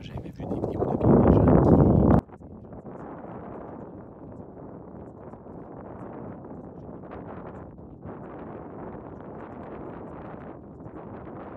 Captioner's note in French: Bruit de vent